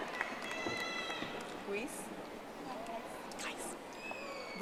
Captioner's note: audience applauding